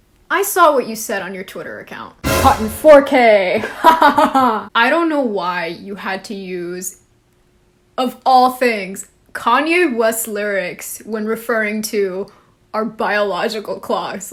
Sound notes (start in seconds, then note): 3.6 evil laugh